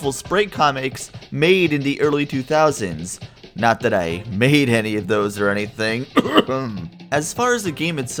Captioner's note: cough